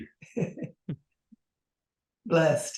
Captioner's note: chuckles